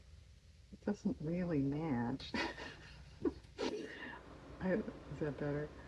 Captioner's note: laughs